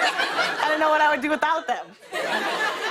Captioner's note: laughter